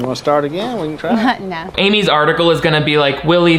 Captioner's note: chuckles